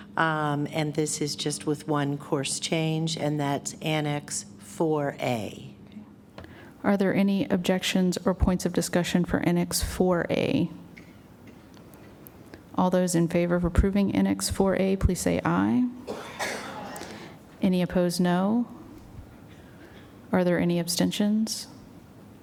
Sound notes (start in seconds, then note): 10.8 silence; 19.1 silence; 22.2 silence